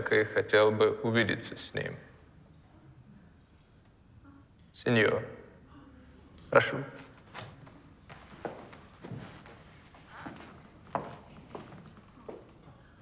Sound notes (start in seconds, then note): none